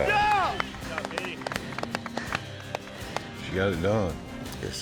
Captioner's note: all clapping